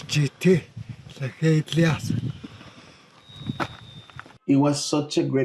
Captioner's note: speaking in Tlingit Native American